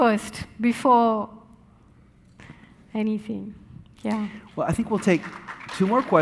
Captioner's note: audience applauding